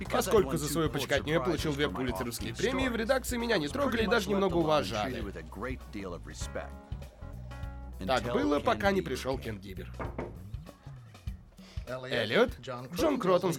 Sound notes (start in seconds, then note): 9.9 knocking; 11.5 sniffs